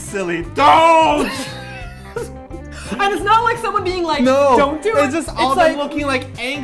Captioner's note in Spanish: Risas